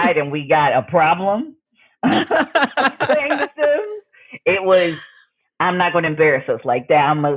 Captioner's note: laughs